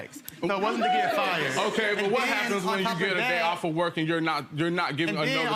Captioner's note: audience laughing